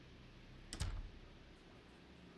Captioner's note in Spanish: puerta cerrando